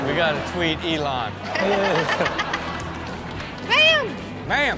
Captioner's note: everyone laughs